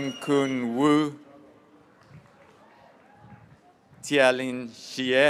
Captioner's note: graduates cheering